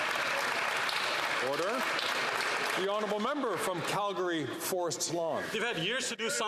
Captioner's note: some Applause